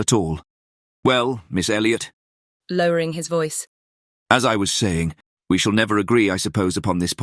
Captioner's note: lowering his voice